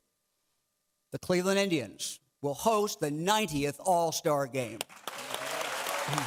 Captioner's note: clapping